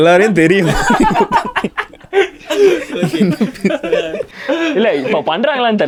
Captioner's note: group laughs